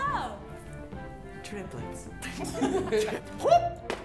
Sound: laughter; bottle whumping; whooping

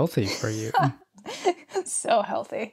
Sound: laughs

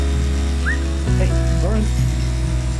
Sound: whistle

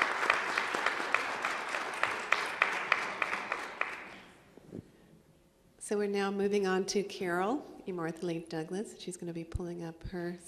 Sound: applause

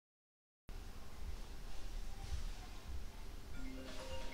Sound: TV playing quietly in background; phone begins to ring

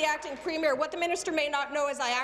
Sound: applause

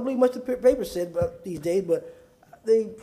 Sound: sounding gavel

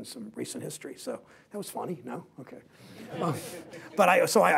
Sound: laughter

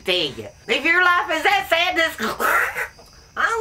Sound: choking

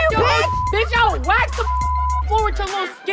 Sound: beep

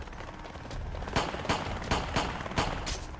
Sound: gunfire

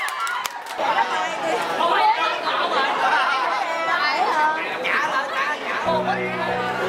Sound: crowd cheering

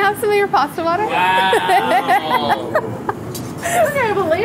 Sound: all groaning

